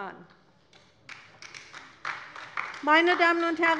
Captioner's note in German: Beifall bei der LINKEN